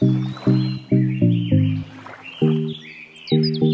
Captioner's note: birds chirp